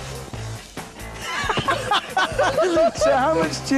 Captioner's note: laughter